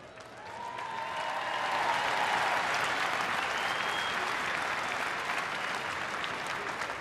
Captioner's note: applause